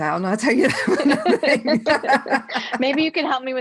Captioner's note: laughing loudly